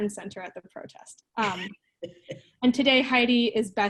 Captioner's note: laughing